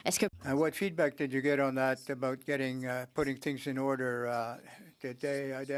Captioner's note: speaking French